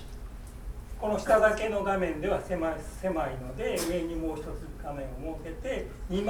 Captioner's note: speaking in foreign language